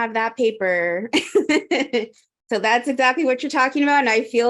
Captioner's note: laughs